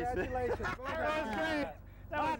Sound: laughter

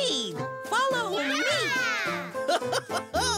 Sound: giggles

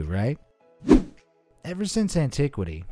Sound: air whooshing

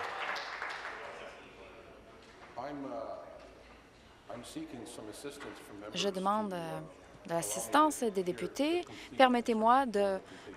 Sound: applause

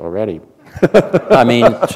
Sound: laughter

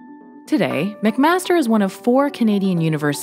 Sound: voiceover

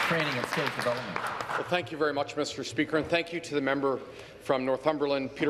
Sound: applause

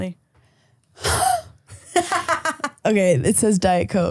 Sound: laughing

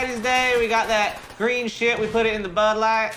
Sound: video game guns rattling

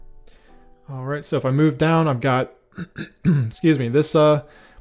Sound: clears throat

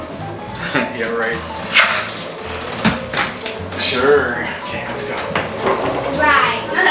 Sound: door slams; chuckles

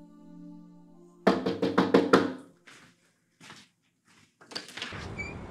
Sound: knocking on door

